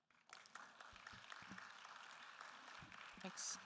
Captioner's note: attendees applauding